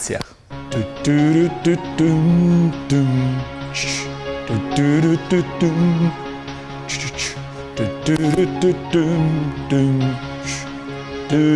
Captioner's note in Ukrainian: Наспівує